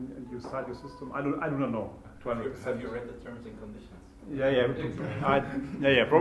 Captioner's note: laughter